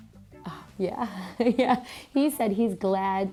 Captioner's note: laughs